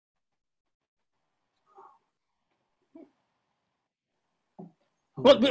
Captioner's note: silence